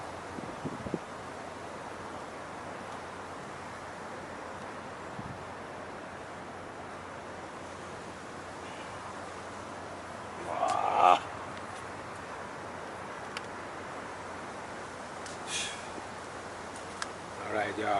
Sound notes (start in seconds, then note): 10.4 grunts; 15.4 exhales sharply